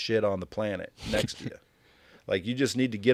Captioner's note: host chuckling